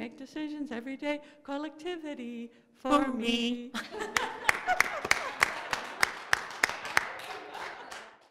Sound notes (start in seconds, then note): 3.7 laughter; 4.1 applause